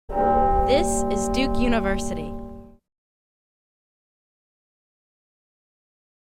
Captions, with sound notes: (bell tolls) - [Voiceover] This is Duke University.